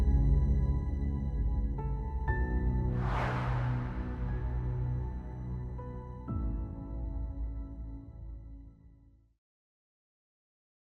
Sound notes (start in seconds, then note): 4.8 air whooshing